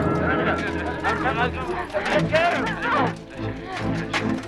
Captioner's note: guards clamoring